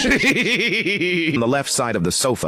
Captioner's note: laughter